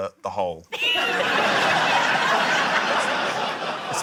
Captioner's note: laughter